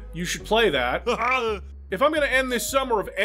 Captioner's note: Big John laugh